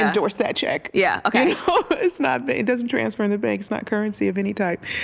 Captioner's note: laughs